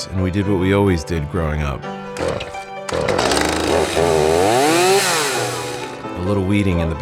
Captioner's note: chainsaw starts